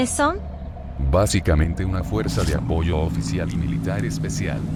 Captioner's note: conversation fading